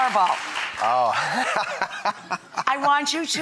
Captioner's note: laughs